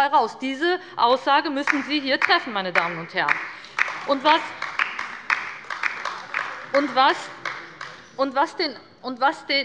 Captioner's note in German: Beifall bei der LINKEN - Zurufe von der CDU